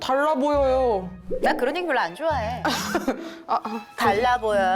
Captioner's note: commonly heard sound effect